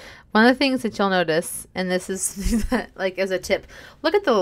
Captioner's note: laughs